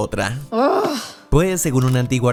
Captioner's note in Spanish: Se queja